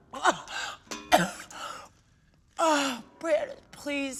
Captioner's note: coughing